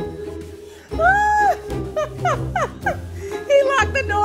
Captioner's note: laughing